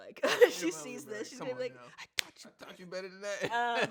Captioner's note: slaps; laughs